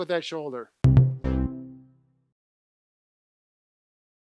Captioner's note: end tone